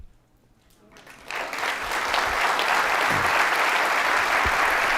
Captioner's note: audience applauding